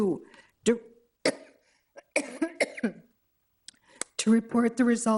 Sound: coughing

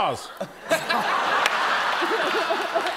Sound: laughter

